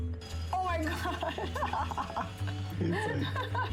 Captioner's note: laughter